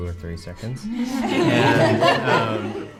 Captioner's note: all laugh